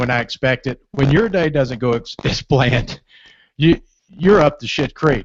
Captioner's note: laughs